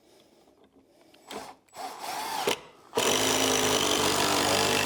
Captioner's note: drilling